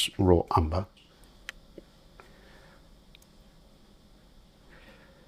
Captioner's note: silence